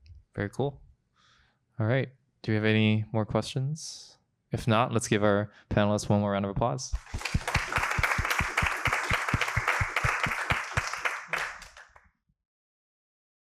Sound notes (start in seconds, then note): 6.9 applause